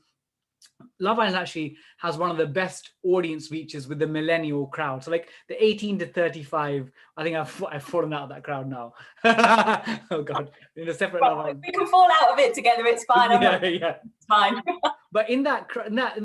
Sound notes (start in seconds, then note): 9.3 laughs